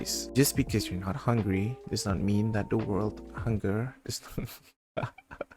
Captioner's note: laughs